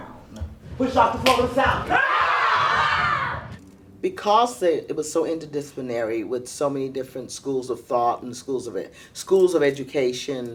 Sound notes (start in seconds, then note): 2.1 yelling